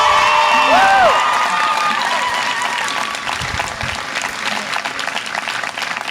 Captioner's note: audience applause and cheer